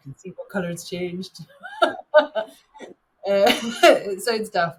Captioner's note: chuckles